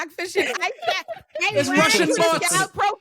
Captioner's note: all chattering